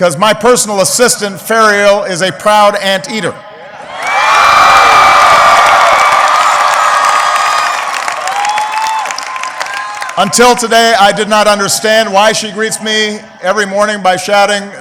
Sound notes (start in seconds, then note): 4.8 applause